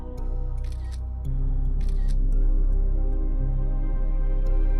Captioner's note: phone camera clicking